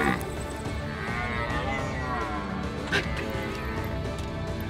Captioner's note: elk bugling; deer bellowing